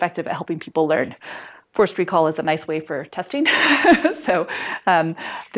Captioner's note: laughter